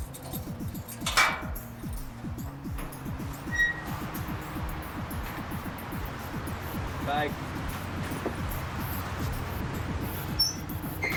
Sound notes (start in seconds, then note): 0.0 metal clinking